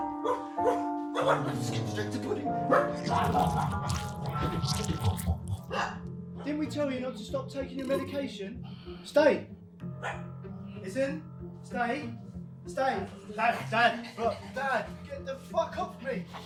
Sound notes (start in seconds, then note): 0.3 Barry yelps; 5.7 Barry barks; 9.9 Barry barks